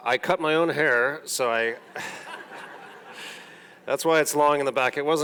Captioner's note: audience laughing; laughs